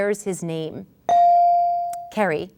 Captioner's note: ding